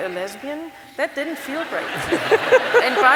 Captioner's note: laugther